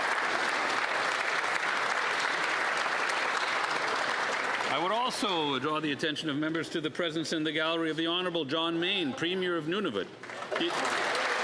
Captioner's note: applause